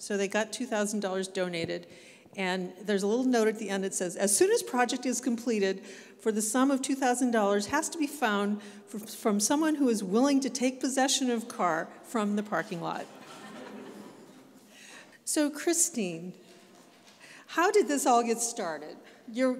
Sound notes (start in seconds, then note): 13.0 audience laughs